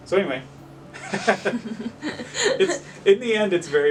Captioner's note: they both laugh